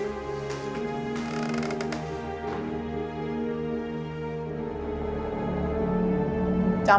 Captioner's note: creaking